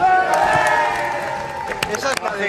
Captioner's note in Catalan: cridòria